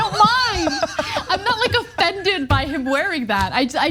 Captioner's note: laugh